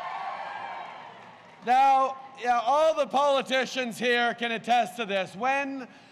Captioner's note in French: Acclamations